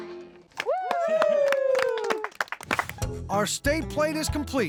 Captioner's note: cheering, applause